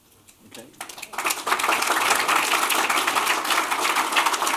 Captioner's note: applause